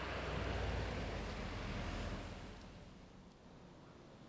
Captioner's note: engine rumbling